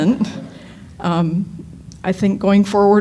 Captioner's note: laughter